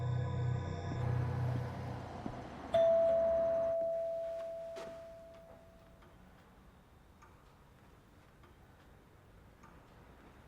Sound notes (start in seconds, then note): 2.7 doorbell ringing